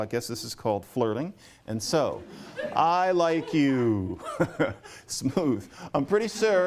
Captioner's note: chuckles